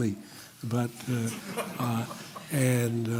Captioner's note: laughter